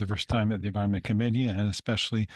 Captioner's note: speaking French